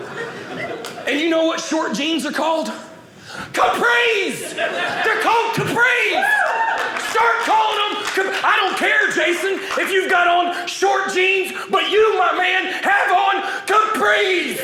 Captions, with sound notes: And you know what short genes are called? Capris! They're called capris. (audience cheering) Start calling them-- I don't care, Jason, if you've got on short jeans, but you, my man, have on capris!